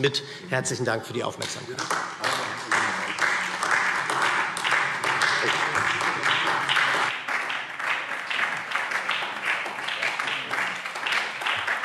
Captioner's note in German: Beifall SPD – Zuruf CDU: Ah!